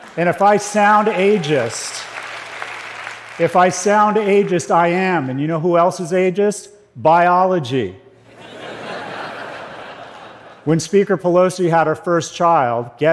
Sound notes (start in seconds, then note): 2.0 applause; 8.2 laughter